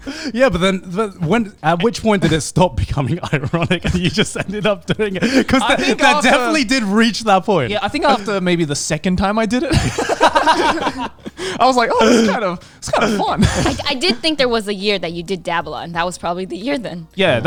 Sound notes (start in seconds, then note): 9.6 all laughing